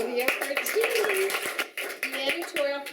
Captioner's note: clapping